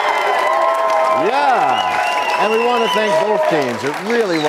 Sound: applause

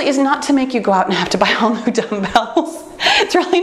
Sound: laughs

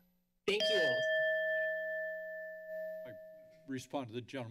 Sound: timer bell rings

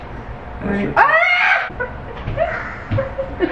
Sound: screams; laughs

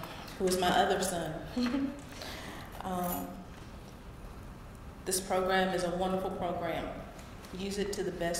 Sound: laugh

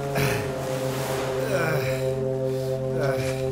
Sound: panting

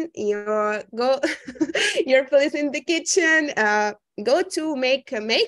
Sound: chuckling

